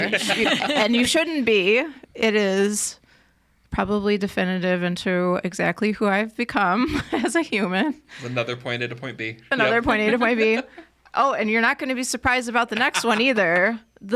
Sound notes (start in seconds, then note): 0.0 podcasters laughing; 9.5 podcaster laughing; 12.6 laughing